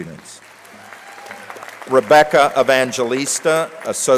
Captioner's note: crowd applauding